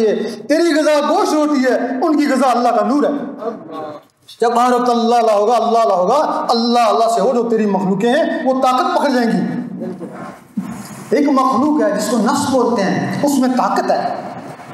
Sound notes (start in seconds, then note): 6.8 heartbeats